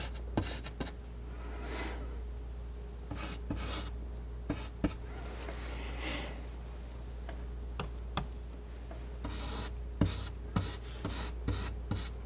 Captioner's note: scratching